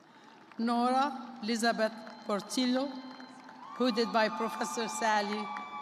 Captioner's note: applause